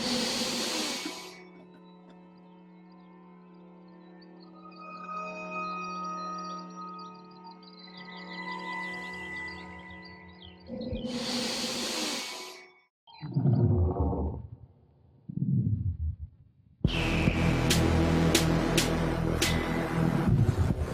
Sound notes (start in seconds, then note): 0.0 sniffs; 5.2 birds chirping; 5.2 strange, ominous music; 11.0 sniffs; 16.8 dramatic techno music